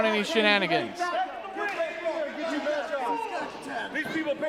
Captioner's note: crowd clamoring